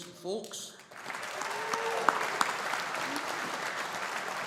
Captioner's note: audience applauding